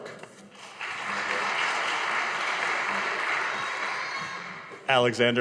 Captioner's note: audience applauding